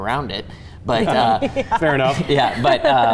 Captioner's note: laughing